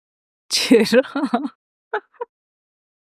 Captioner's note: laughs